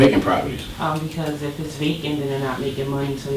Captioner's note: voiceover